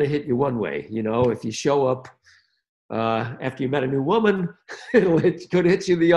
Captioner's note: chuckles